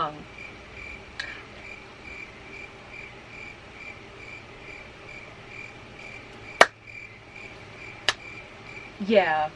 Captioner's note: crickets